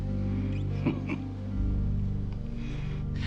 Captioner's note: chuckles